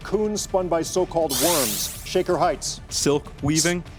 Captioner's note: buzzer chiming